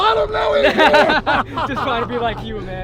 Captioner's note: laughing